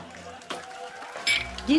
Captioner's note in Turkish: Fonda Alkış sesleri